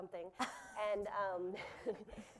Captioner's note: laughter